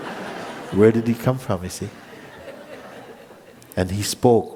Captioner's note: laughter